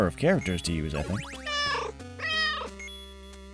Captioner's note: meow